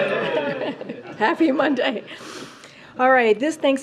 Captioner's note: laughs